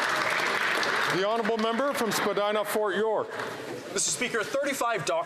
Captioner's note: speaking indigenous language; some Applause